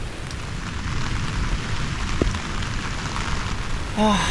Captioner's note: wind & rain